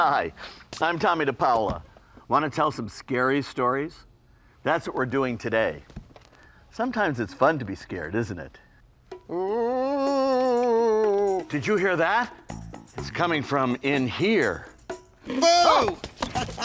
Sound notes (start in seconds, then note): 9.2 low moaning; 15.2 man screaming